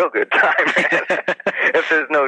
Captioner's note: both laugh